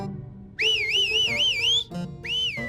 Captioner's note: whistles victoriously